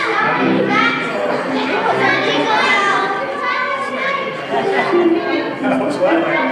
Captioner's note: crowd chatter, kids argue over what song to sing